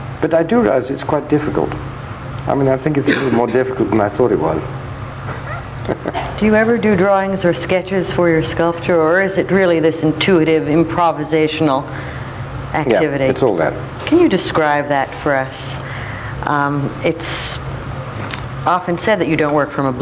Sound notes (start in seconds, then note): 5.3 laughs